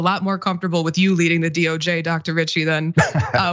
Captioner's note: laugh